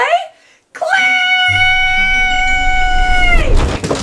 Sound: screams

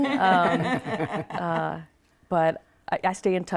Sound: ladies laughing

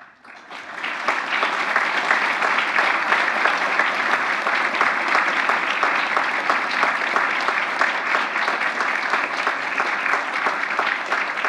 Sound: applause

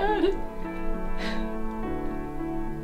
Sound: Andrea sobbing; gentle music

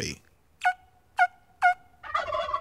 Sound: turkey call

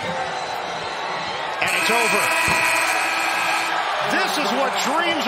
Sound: buzzer

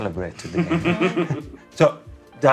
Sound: laughter

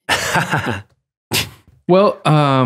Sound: Father Angelus laughs

